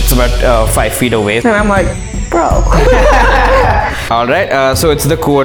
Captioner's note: laughter